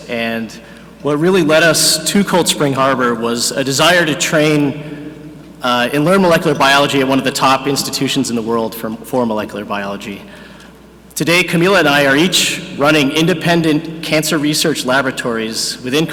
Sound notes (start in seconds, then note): none